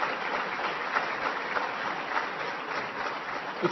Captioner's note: applause